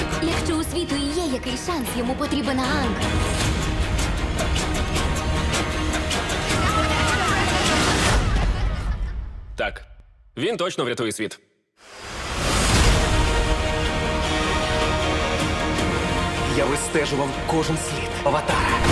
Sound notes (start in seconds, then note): 6.4 people exclaiming; 8.2 music fades out; 12.0 intense music resumes